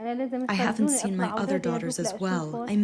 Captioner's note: through translator